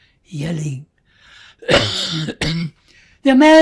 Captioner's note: coughing